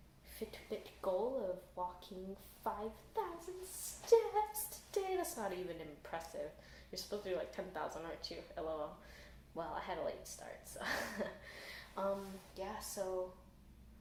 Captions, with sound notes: Fitbit goal of walking 5,000 steps today! That’s not even impressive. You’re supposed to do like 10,000 aren’t you? Lol Well, I had a late start so.. (laughs) Umm, yeah so…